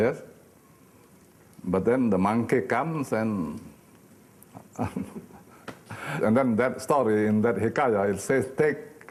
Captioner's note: laughing